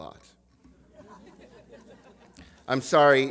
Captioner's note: laughter